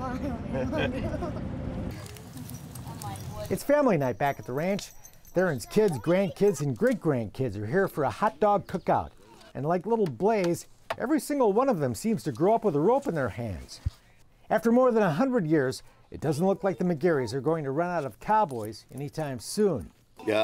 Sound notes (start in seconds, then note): 0.0 all laugh; 1.8 fire crackling